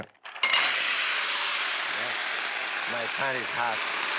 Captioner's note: sizzling